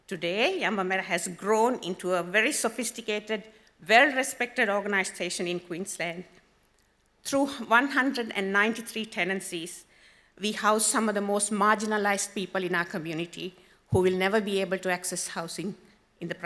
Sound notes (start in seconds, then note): none